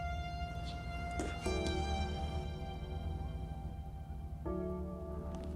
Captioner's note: spit splattering